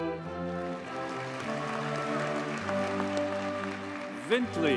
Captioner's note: audience cheers and applauds